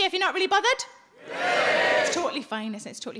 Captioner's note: audience cheering